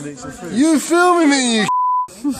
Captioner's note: beep